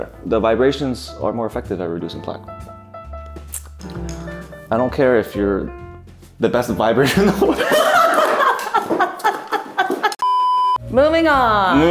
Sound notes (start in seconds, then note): 7.0 both laughing